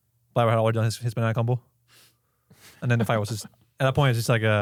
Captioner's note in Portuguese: risos